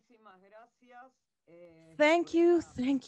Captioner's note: speaking in a foreign language